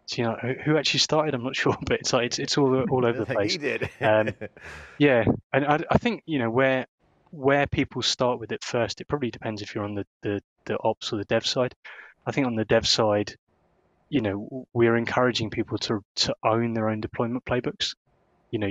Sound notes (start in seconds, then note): 4.1 laughs